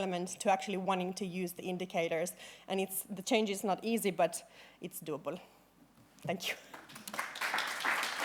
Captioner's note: applause